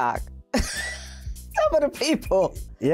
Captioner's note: laughing